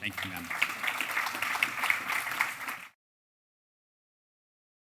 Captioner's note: applause